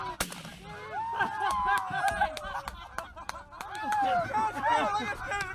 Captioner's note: laughter and cheering